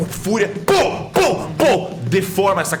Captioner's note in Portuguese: pow pow pow